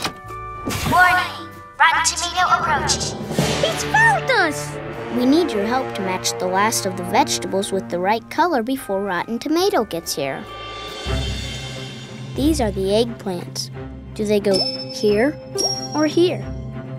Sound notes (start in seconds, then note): none